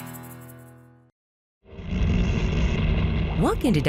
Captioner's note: dark, bubbling background noise